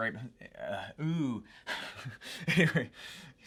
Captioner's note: laughs